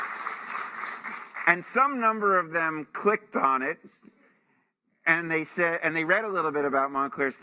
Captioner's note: applause